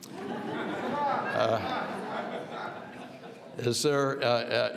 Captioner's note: audience laughs